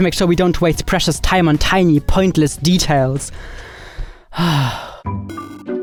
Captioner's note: sighs; playful music